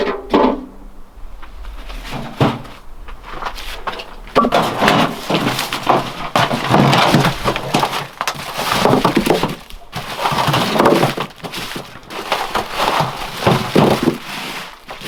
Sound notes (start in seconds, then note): 10.9 parcels rustling